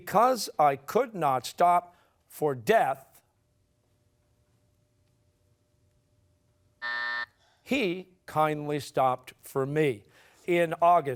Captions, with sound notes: "Because I could not stop for death"? (buzzer sounding) "He kindly stopped for me."